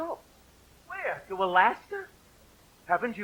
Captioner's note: spoken, incredulous; singing